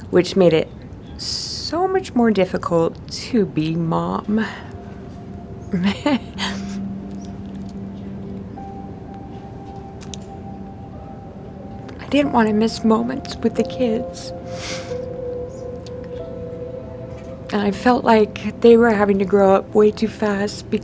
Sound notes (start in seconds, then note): 5.3 gentle music; 5.8 laughing